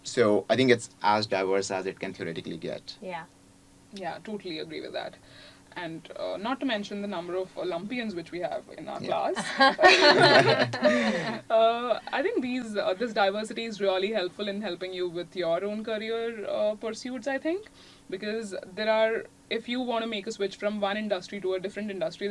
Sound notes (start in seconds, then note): 9.1 laugh